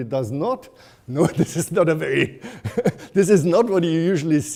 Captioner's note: chuckling